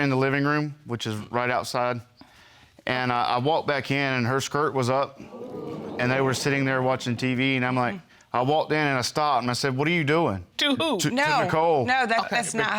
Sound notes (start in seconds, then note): 2.8 audience gasping